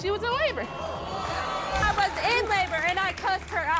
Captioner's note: audience groans